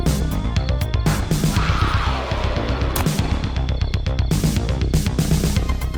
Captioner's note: Lighthouse Keeper screeching